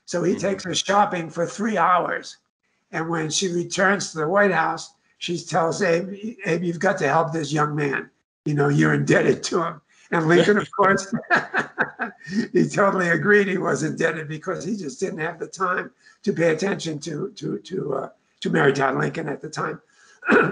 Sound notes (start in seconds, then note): 10.2 laughs